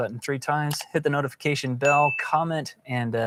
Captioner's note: bell dinging